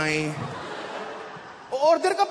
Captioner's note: laughter